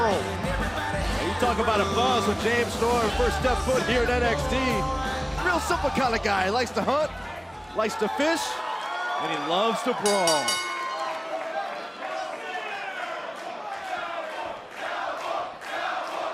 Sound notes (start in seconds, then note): 11.7 bell ringing; 13.9 crowd chatter; 15.2 crowd cheering